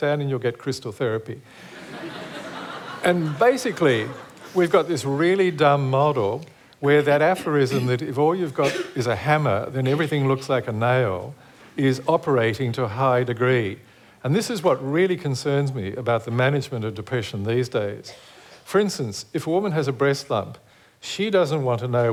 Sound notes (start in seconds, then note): 1.6 laughter